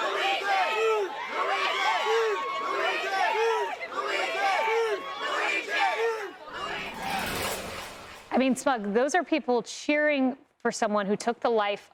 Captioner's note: cheering